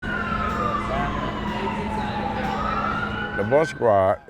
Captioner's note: sirens blaring; people chattering